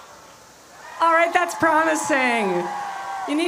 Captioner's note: cheering